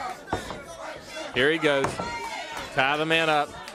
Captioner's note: crowd chatter; crowd cheering